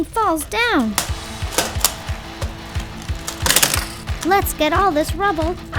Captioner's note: tiles crackling; upbeat music